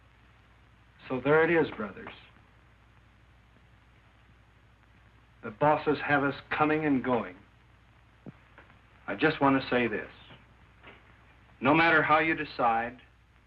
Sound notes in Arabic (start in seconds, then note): none